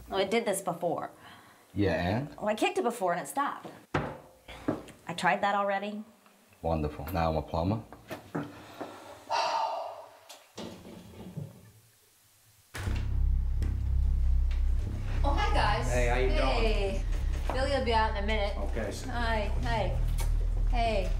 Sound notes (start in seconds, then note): 3.8 foot thuds; 13.2 ominous music